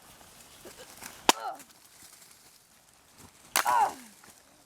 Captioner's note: smashing branches noises